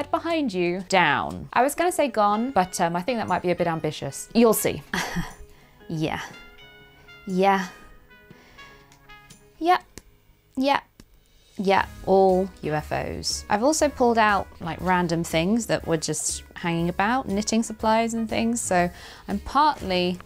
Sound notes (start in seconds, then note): 4.9 chuckles